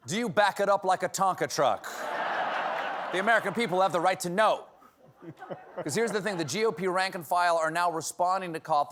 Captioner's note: laughter